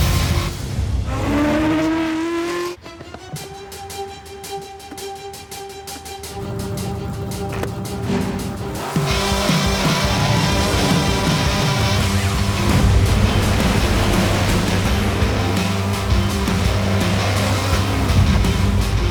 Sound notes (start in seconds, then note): 7.5 click